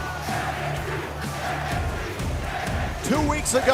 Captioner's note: crowd cheering